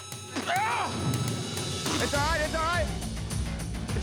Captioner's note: grunting